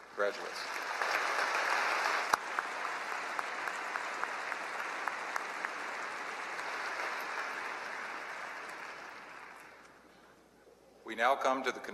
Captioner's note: applause